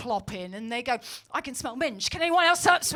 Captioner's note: sniffs